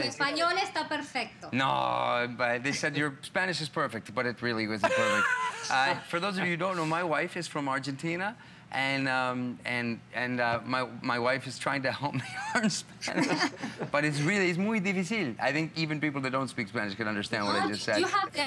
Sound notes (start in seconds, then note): 1.9 foreign language; 3.8 foreign language; 12.1 laughter; 18.2 foreign language